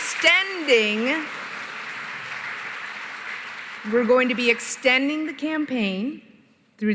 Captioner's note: applause